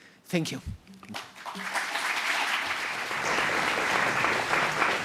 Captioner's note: applause